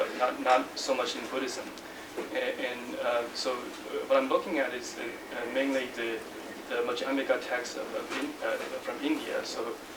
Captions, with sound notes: but not so much in Buddhism. And so what I'm looking at is mainly the [NON-ENGLISH SPEECH] text from India.